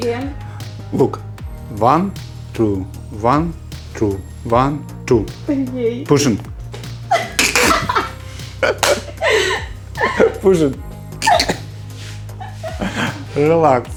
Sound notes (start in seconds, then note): 7.0 laughing